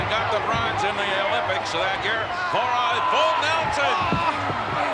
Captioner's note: speaks in foreign language